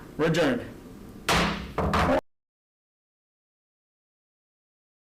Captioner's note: gavel bangs